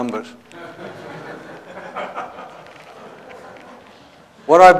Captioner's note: laughter